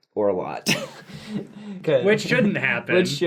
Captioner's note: laughs